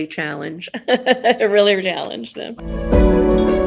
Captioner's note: laughs